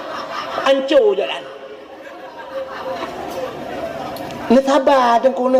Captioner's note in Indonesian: tertawa